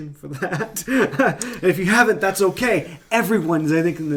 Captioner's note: laughing